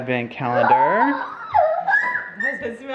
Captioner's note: exclaiming